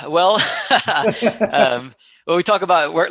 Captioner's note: laughing